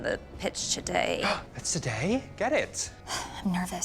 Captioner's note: gasps